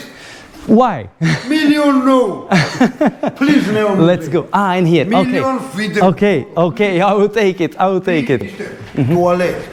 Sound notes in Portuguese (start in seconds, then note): 2.5 risadas